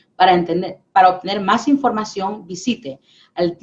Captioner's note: speaking spanish